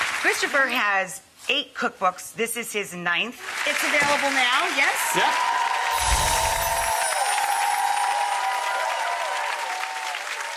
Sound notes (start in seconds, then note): 6.6 audience cheers